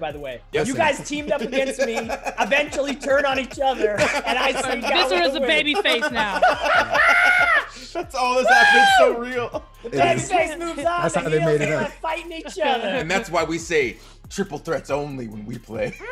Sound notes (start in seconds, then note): 8.5 laugh